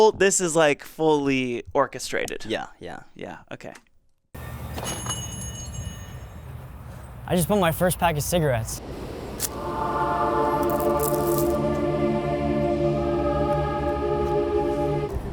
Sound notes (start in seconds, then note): 4.4 bell ringing; 9.1 angelic music